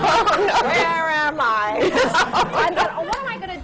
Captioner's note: laughter